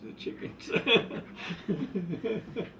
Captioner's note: laughs